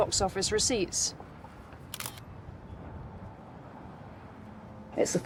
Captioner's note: camera clicks